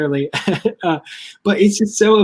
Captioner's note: chuckles